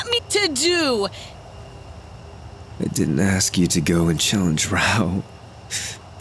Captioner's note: coughs